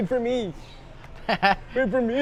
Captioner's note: chuckles